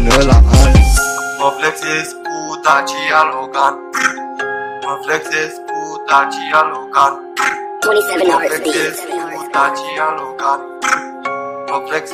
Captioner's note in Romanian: prr